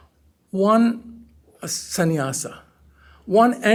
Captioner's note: hindi